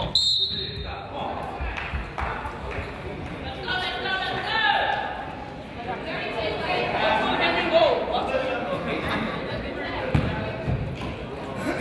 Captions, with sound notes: (whistle blows) - Let's go let's go let's go.